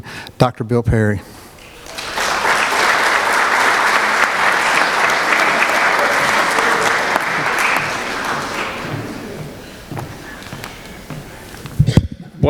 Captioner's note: applause